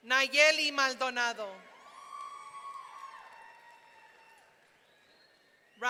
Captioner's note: audience cheering